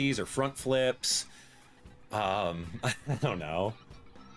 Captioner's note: laughs